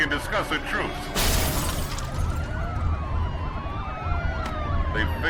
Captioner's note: sirens wailing; glass shattering